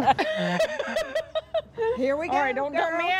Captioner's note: laughing